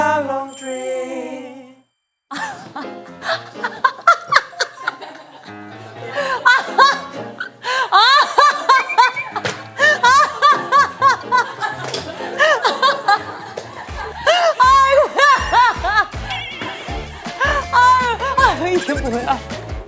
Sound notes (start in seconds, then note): 3.6 laughing hysterically; 7.4 gasping